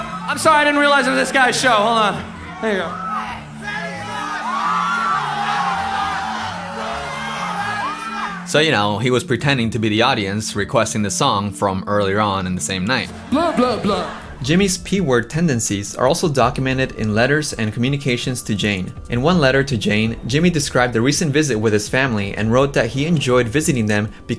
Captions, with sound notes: -I’m sorry, I didn't realize I'm in this guy's show, hold on. There you go. -Panty shot! [crowd cheers] -Panty shot! -Panty shot! -Panty shot!" So, you know, he was pretending to be the audience, requesting the song from earlier on in the same night. "-Blah, blah, blah." Jimmy's P-word tendencies are also documented in letters and communications to Jane. In one letter to Jane, Jimmy described the recent visit with his family and wrote that he enjoyed visiting them